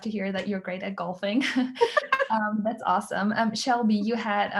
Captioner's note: laughter